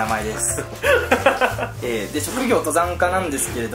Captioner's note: laughs